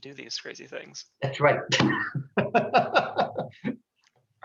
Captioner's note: laughs